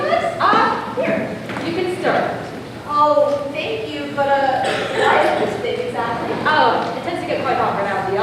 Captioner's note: ahem